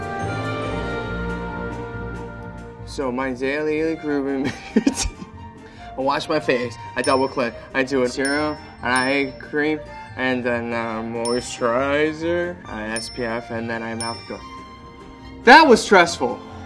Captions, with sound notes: - So my azalea grew a roommate [laughs]. I wash my face, I double cleanse, I do a serum, an eye cream, and then a moisturizer, I SPF, and then I'm out the door. That was stressful.